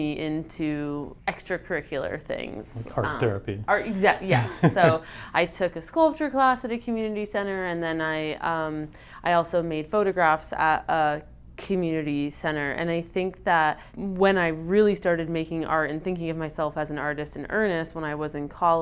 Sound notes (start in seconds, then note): 4.2 laughs